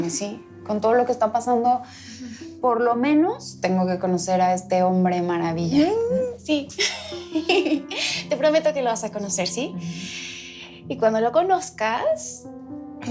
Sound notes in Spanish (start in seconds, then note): 6.8 Risas